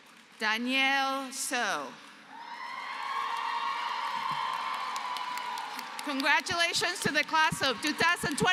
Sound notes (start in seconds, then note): 2.6 applause; 8.2 applause, cheering